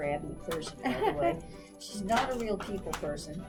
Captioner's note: laughs